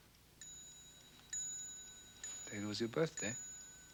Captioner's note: clock bell ringing